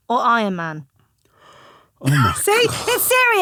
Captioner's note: Romesh gasping